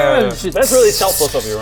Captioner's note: sssszhshhh